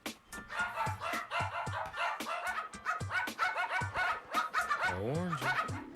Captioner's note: dogs barking